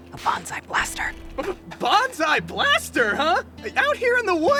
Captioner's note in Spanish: Nerviosamente